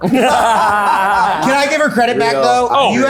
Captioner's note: people laughing